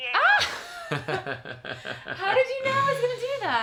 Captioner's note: laughing